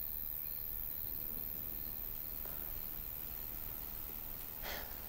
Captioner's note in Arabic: هدير الرعد